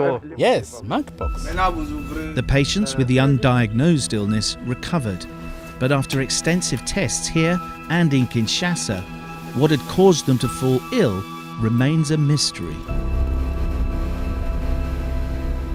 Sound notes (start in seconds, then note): 1.3 non-english speech